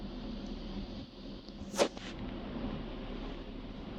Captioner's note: crack